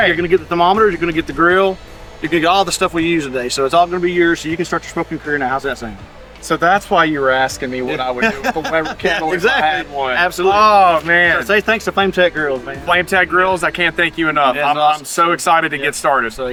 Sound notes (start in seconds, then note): 8.0 laughing